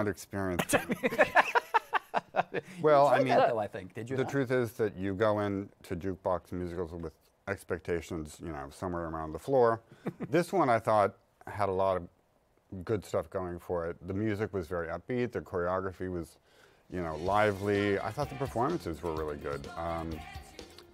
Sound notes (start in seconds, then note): 0.6 laughter